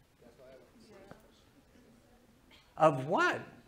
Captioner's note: class murmurs